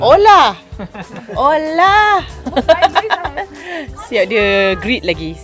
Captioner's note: laugh